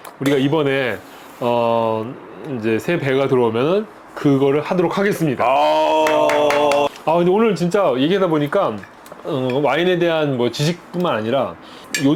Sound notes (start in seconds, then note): 5.9 clap clap clap